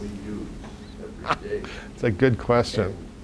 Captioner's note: laughs